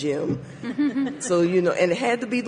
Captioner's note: participants chuckling